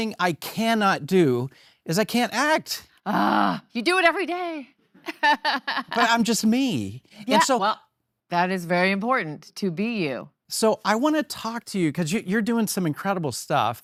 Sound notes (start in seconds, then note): 3.0 groans; 5.1 laugh